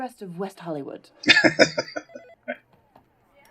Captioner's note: laughing